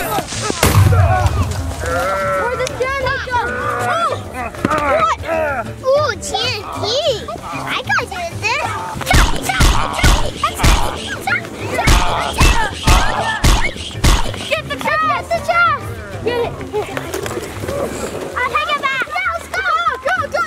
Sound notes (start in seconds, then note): 0.6 small explosion; 10.7 groans